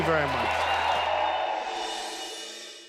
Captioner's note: cheers and applause